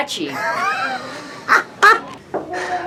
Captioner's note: laughs